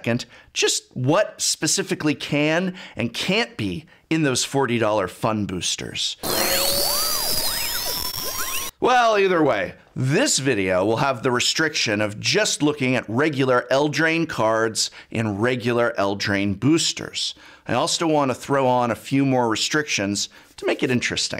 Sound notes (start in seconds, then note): 6.2 scientific sound effect